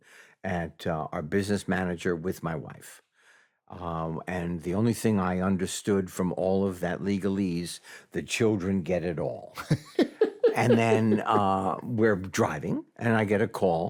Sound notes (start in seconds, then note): 9.5 chuckles